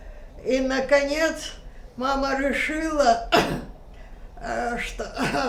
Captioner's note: coughing